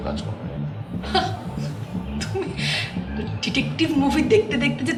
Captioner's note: chuckles